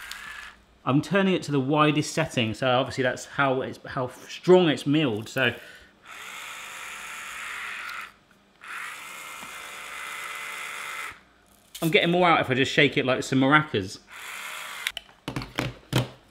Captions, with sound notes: I'm turning it to the widest setting, so obviously that's how strong it's milled. (grinder whirring) I'm getting more out if I just shake it like some maracas.